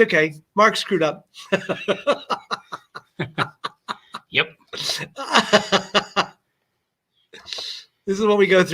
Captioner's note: laughter